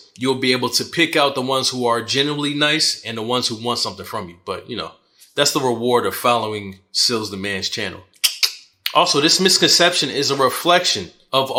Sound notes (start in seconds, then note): 8.2 clicks tongue